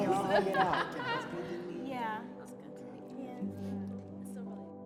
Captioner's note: group chattering